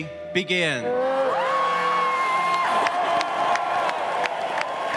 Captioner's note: cheers and applause